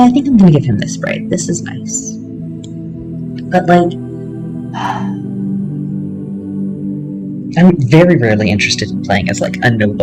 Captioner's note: sigh